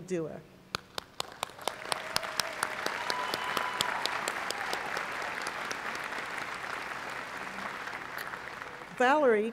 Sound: applause

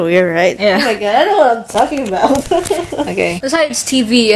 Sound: chuckles

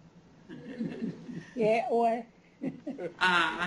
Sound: non-english speech; chuckles; non-english speech

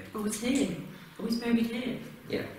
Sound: pat

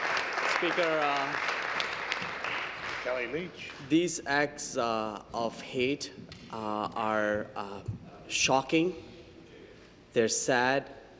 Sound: applause

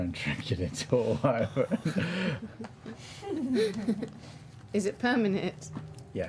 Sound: laughter

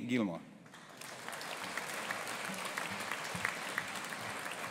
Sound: audience applauding

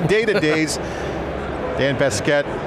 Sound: laughs

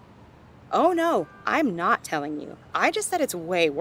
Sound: none

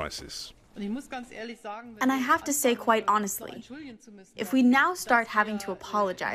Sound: through translator

